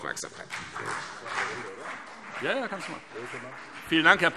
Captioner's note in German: Beifall CDU und vereinzelt BÜNDNIS 90/DIE GRÜNEN